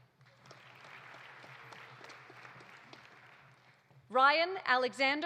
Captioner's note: audience applauding